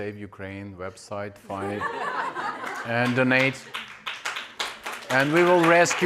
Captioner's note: audience laughing